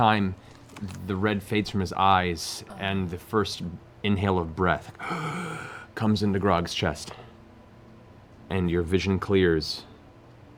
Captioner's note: gasps